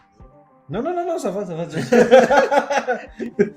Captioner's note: laughs